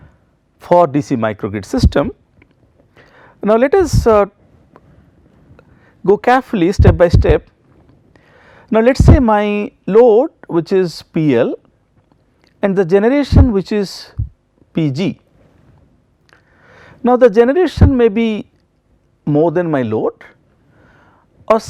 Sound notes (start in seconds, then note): 3.8 wind turbine